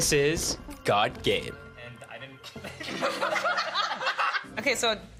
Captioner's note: all laughing